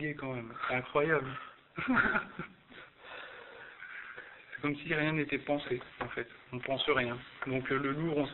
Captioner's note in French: rire